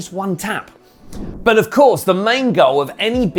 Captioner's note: transition whooshing